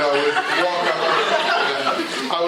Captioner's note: laughter